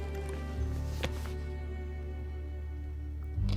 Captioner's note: laptop closes